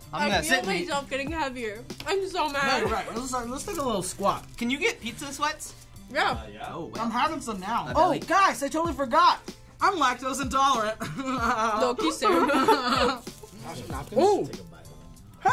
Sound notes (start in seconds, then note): 11.0 laughs